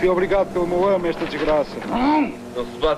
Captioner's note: guttural scream